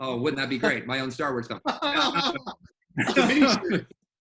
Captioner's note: laughing